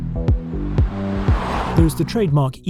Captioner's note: upbeat electronic music; car roaring